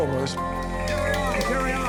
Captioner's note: crowd cheering